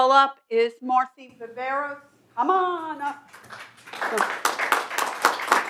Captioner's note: applause